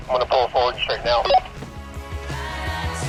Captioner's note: walkie talkie blip